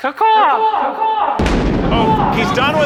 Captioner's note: gunshot